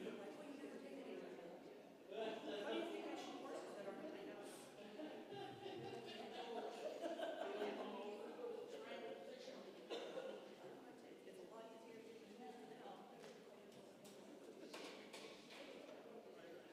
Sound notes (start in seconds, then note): 1.0 congregation chattering